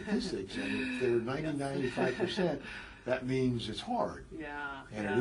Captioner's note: laugh